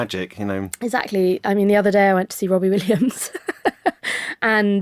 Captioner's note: she laughs